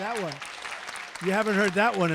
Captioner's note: applause